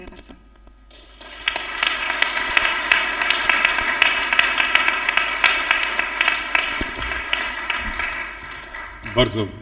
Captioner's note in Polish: oklaski